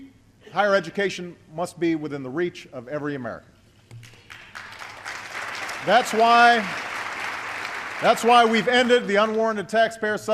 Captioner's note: applause